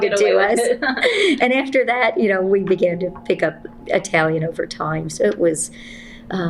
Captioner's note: laughter